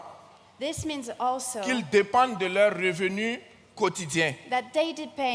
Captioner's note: continues in French; continues in French